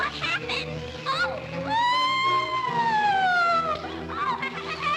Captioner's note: screams; stammers